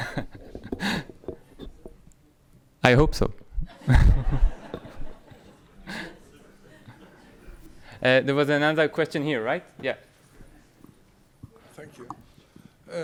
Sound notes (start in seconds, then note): 3.6 chuckles; 3.6 audience laughing